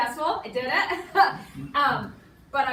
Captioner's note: laughs